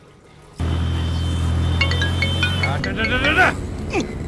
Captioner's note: mobile ringing